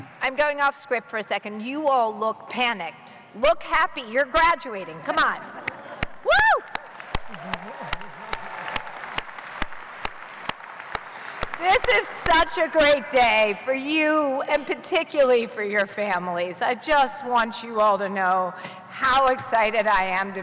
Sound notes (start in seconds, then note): 11.7 cheers and applause